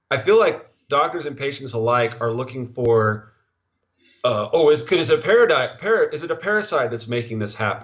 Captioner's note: stuttering